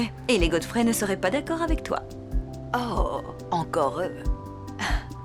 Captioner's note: none